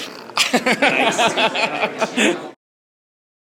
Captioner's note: laughter